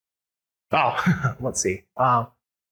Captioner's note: laughs